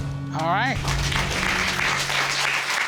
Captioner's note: applause